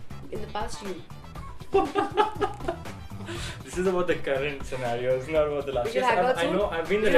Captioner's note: laughing hard